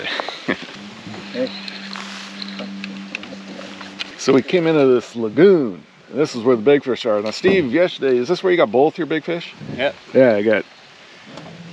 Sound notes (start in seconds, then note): 2.4 chuckling